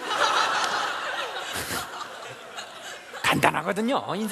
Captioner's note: laughs